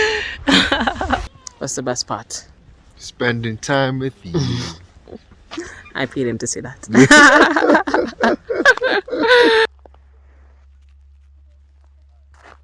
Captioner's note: laughter